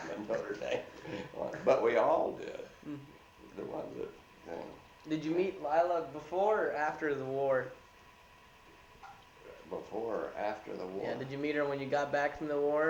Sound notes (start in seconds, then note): 0.0 laughs